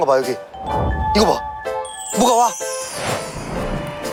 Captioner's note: spring breeze blowing~